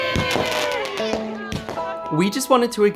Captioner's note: fireworks bursting